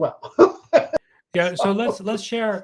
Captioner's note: chuckles